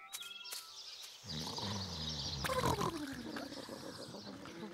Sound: care bears snore

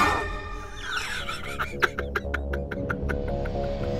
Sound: laughing

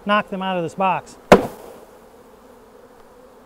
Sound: box banging; bees buzzing

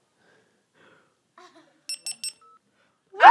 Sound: beeping; screaming

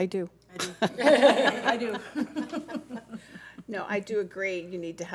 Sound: board laughs

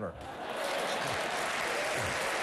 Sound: applause

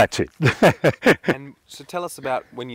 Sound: laughs

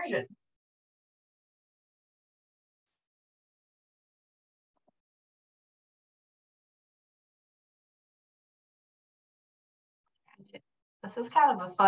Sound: silence

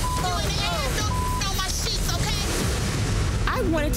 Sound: beep; dramatic music

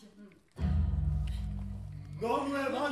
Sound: imposing buzz

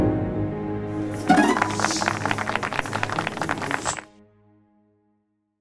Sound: applause

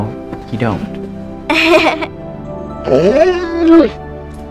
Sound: giggles

